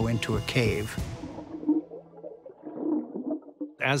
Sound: water bubbling

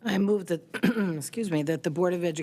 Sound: clearing throat

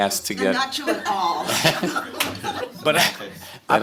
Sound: laughter

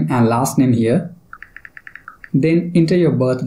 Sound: typing

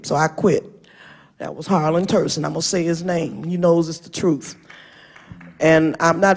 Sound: applause

